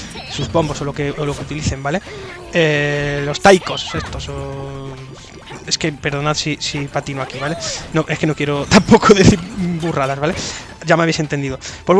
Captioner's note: laughs